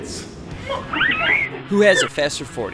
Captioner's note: baby laughing